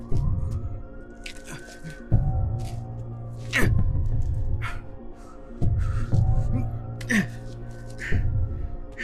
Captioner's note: tense music; Yong-nam’s straining breaths; heavy breathing